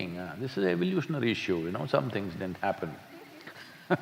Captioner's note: laughs